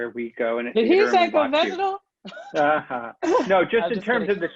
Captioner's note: laughing